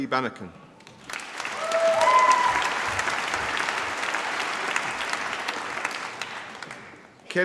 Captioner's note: applause